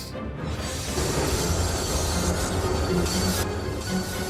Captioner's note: brakes screech